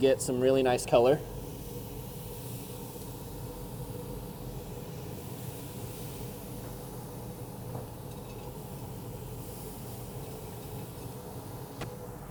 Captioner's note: chicken sizzling